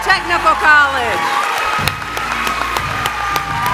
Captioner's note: applause